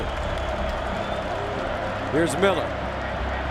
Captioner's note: crowd cheering